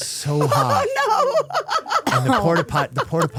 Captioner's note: laughing